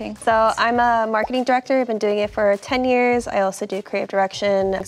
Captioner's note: none